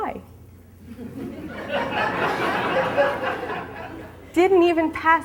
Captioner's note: audience laughing